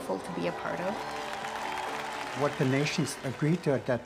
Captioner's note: crowd applauding